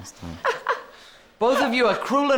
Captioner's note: laughter